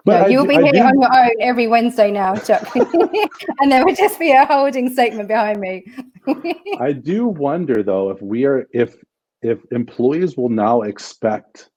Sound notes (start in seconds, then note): 3.9 laughter